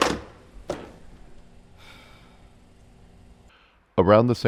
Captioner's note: sighs loudly